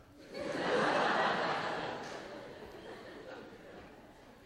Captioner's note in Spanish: clase se ríe